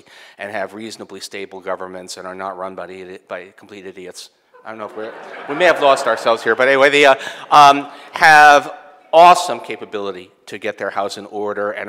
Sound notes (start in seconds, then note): 4.5 audience laughing